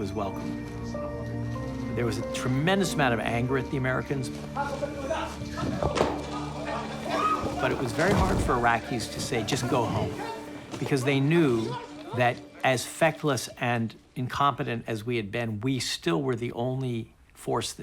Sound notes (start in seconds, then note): 4.4 man yells in Arabic